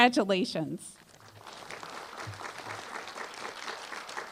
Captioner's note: applause